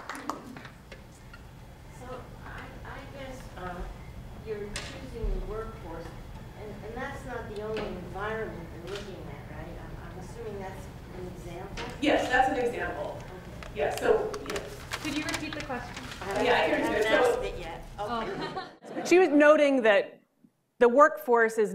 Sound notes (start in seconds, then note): 2.9 speaking off mic